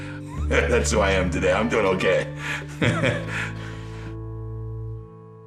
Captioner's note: laughing; chuckling